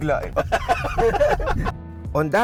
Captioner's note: both laughing